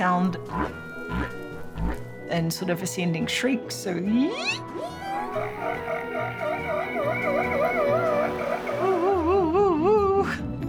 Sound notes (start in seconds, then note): 1.7 whale grunts; 4.2 whale vocalizing; 4.4 imitates shrieking; 8.8 imitates whale vocalizing